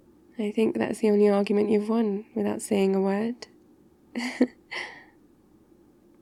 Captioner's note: laughs